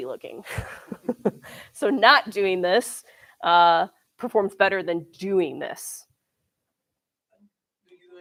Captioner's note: laughs